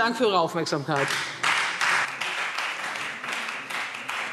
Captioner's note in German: Beifall Freie Demokraten